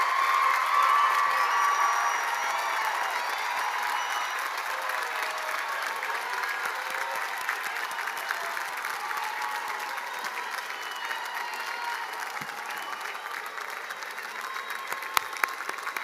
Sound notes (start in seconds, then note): 1.9 cheers and applause; 13.6 cheers and applause